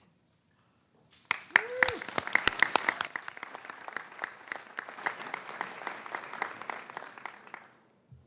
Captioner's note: applause